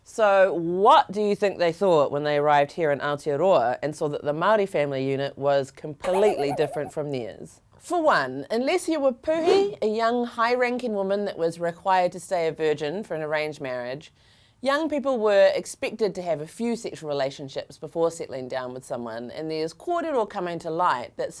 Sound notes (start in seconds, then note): 6.0 boinging effect; 9.1 air whooshing